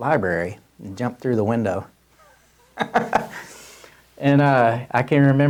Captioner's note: laughs